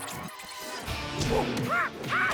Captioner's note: clyde screeches